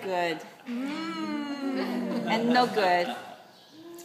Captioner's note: laughter